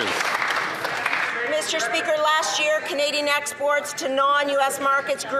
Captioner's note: some Applause